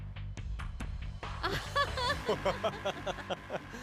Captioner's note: laughs